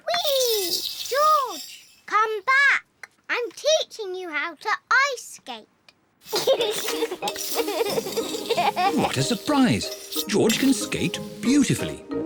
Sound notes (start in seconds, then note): 6.3 giggles